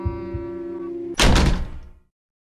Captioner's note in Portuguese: Porta se fecha rápido